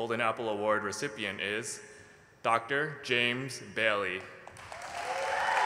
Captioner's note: applause